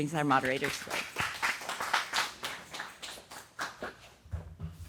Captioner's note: applause